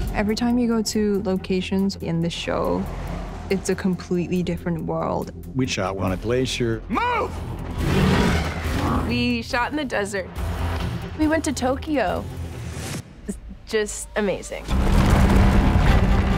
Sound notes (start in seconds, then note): 7.7 beast roaring; 14.7 rocks crumbling